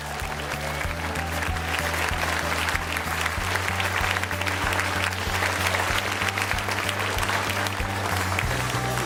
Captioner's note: applause